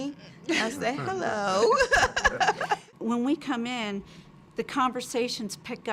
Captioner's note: laugh